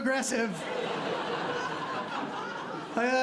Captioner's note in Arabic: ضحك